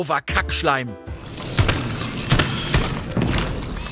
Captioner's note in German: Schüsse, Quietschen